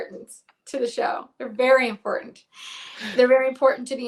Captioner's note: chuckles